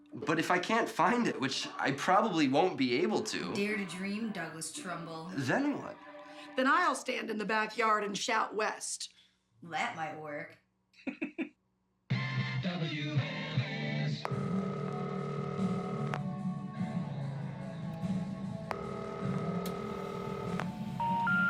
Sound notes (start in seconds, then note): 11.0 laughs; 13.2 phone ringing